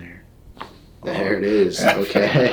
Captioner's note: neck cracks; both laughing